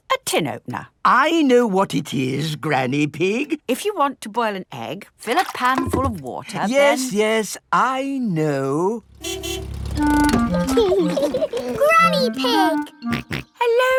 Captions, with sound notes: It's a tin opener. I know what it is, Granny Pig. If you want to boil an egg, fill a pan full of water... Yes, yes... I know. -(CAR HONKING) -(LAUGHING) -Granny Pig! -(SNORTS)